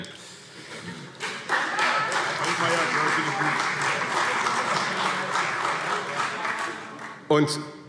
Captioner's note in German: Beifall CDU